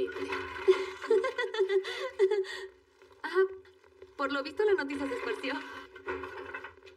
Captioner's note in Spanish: Ríe